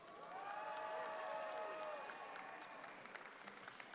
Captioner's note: audience applauds